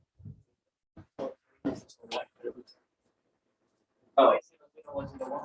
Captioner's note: background chatter